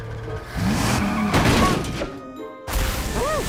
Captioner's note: engine revs, tires squeal; crash